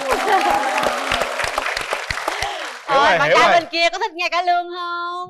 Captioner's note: applause